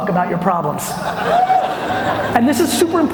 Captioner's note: audience whoops